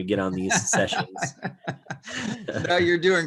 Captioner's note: chuckles